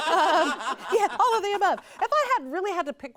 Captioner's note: mockingly laughs nervously